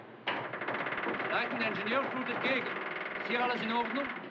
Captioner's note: German